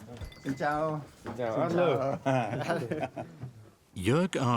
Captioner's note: Vietnamese spoken audio